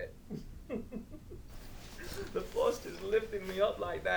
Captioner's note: Captain Brookes giggles